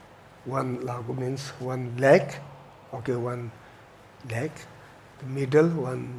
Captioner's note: tibetan language